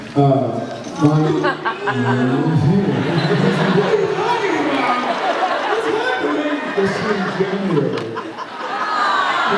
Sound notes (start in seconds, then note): 1.3 evil laugh; 1.4 groans, laughs; 7.9 laughs